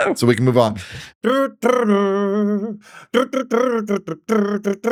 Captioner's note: humming